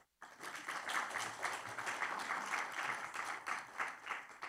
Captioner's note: audience applauding